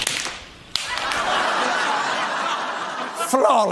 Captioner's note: audience laughing